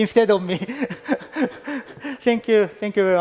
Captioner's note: laughs